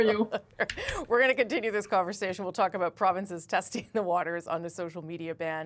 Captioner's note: laughter